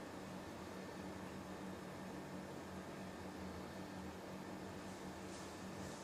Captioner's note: none